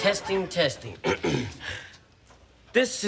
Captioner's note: clears throat